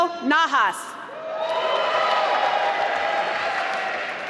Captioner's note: applause